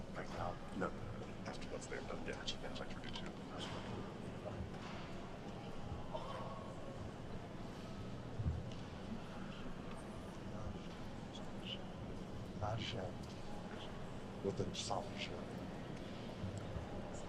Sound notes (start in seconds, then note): 2.8 chattering